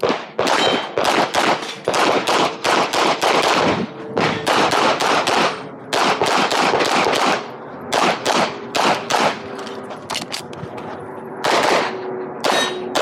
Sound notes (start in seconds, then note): 0.0 machine beeping; 0.0 gunshots banging; 3.7 aircraft droning; 10.0 gun clicking; 11.4 gunshots banging; 12.4 targets pinging